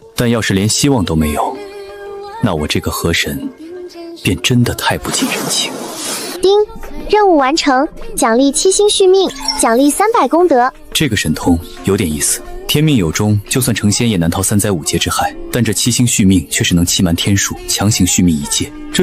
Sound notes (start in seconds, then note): 6.4 ding!